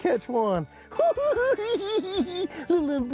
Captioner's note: cackling